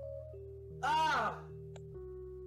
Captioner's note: dramatic groan